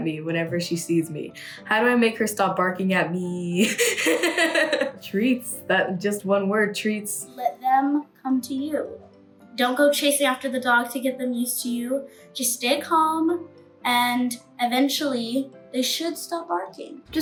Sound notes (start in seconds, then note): 3.6 laughs